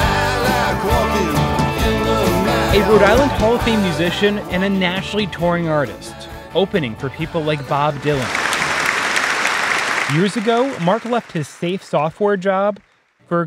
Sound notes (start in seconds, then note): 7.6 audience clapping